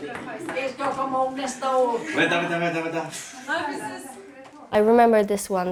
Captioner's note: speaking in foreign language